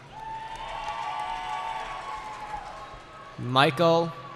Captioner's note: cheering